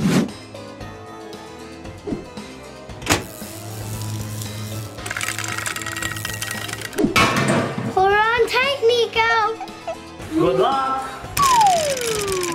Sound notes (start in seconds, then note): 0.1 Dracula whooshes; 3.1 electricity sizzles